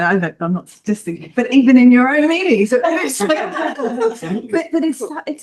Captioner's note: all laugh